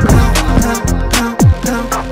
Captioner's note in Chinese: 撲通